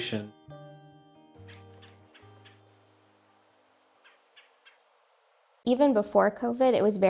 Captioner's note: birds chirping